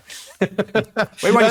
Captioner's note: laughing